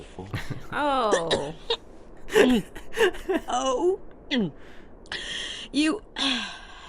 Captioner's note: cough